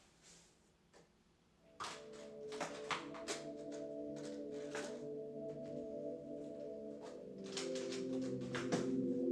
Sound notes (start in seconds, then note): 1.6 gentle music; 1.8 case rattling